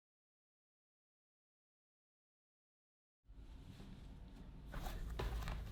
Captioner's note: no sound